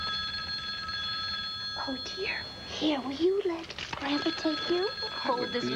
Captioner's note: telephone rings